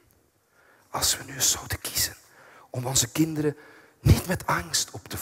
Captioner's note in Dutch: fluistert